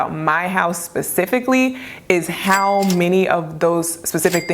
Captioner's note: register dings